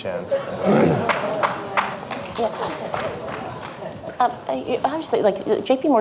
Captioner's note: audience laughing; audience clapping